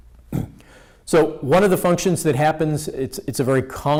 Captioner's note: clears throat